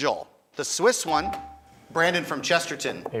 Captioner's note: buzzer chimes